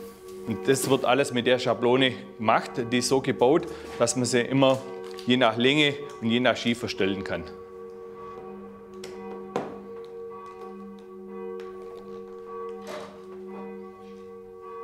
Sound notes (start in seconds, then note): 7.6 church bells ringing